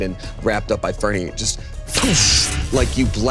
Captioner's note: imitates explosion booming